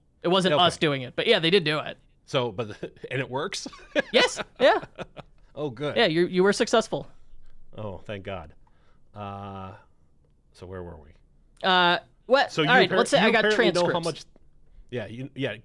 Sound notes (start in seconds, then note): 3.7 laughs